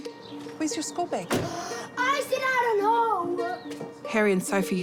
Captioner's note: gasps